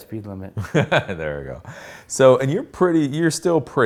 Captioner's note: laughs